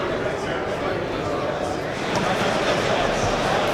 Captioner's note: people chattering